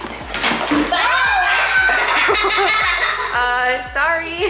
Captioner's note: children screaming and laughing